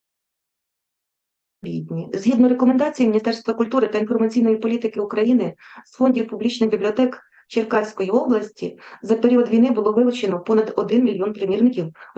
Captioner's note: foreign Language